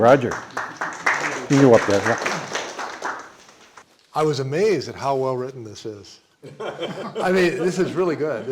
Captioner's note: applause